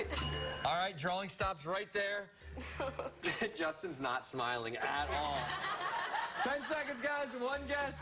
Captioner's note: laughter; laughter